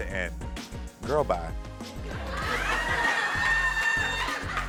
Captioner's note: audience laughs